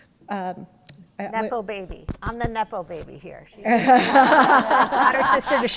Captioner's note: laughter